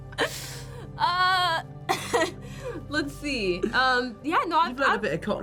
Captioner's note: Zendaya and Tom laughing